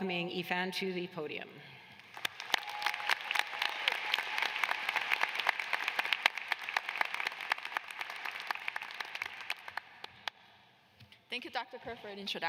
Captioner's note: applause